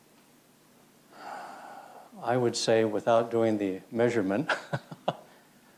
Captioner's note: laughs